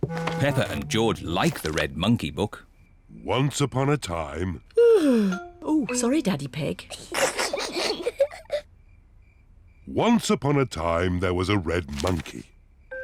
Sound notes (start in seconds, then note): 4.8 yawns; 6.9 peppa and george giggle